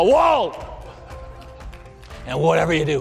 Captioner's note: audience laughter